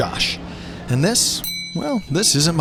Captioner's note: bell dings